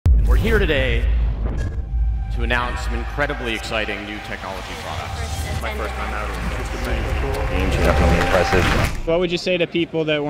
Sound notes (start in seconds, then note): 5.4 various testimonial voices